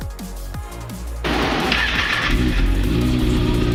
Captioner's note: engine Starting